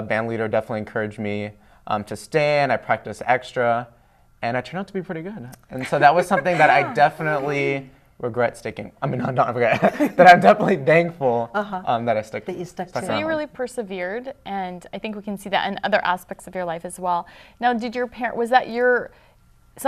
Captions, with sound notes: >> BUT I REMEMBER THE BANDLEADER DEFINITELY ENCOURAGED ME TO STAY AND I PRACTICED EXTRA AND I TURNED OUT TO BE PRETTY GOOD. AND SO [LAUGHTER]... >> OH. >> ...THAT WAS SOMETHING THAT I DEFINITELY REGRET STICKING -- I MEAN NOT REGRET [LAUGHING] BUT I'M DEFINITELY THANKFUL... >> UH-HUH. >> ...THAT I STUCK... >> THAT YOU STUCK TO IT. >> ...STUCK IT OUT. >> SO YOU REALLY PERSEVERED AND I THINK WE CAN SEE THAT IN OTHER ASPECTS OF YOUR LIFE AS WELL. NOW DID YOUR PARENTS -- WAS THAT YOUR --